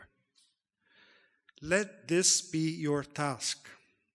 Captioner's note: none